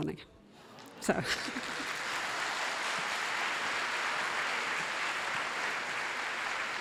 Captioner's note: applause